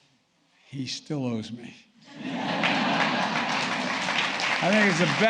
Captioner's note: laughter and Applause